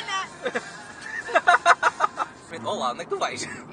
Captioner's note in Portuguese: Risos